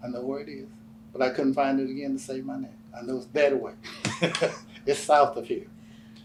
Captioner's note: laughs